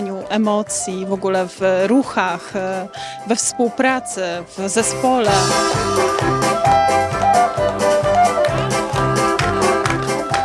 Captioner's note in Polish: Aplauz